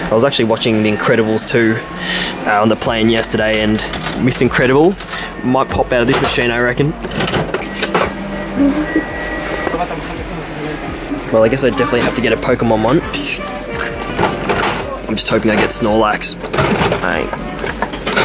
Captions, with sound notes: I was actually watching the Incredibles 2 on the plane yesterday, and Mr. Incredible might pop out of this machine I reckon. (coins clinking) Well I guess I definitely have to get a Pokemon one. (crank turning) I'm just hoping I get Snorlax. All right.